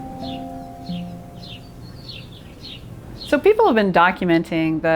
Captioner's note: birds chirping